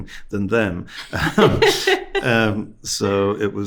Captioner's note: host laughing